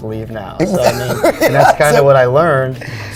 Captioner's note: laughing